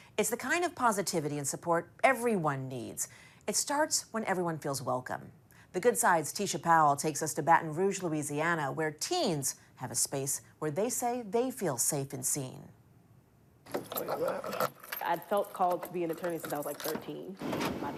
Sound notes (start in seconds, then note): 13.7 keys clanging